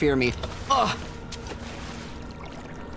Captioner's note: splashing